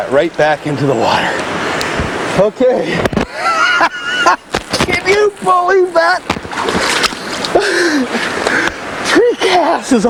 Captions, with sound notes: There we go. Look at that right back into the water. Okay. [laughter] Can you believe that?